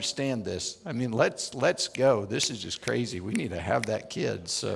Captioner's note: snaps